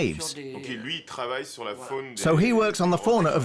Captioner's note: speaking French